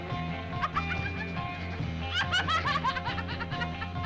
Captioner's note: Bunny laughing